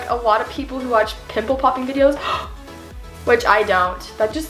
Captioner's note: gasps